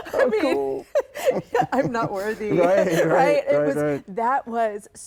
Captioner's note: laughs